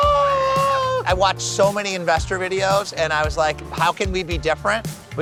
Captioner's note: screams